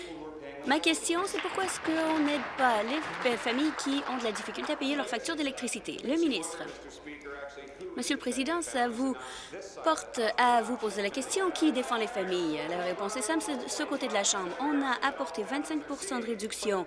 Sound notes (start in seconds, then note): 5.8 applause